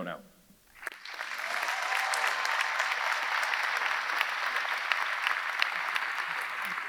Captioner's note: audience applauding; audience cheering